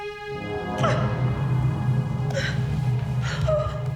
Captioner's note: whimpering